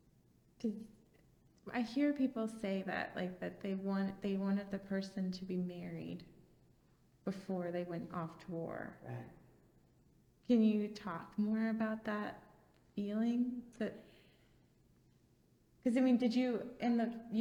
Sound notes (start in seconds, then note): none